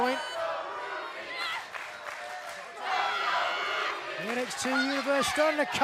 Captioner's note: fans chanting